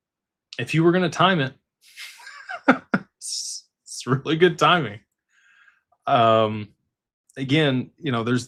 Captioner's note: laughter